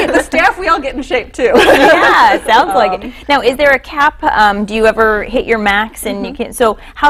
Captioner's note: laughter